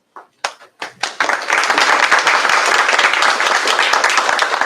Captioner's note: applause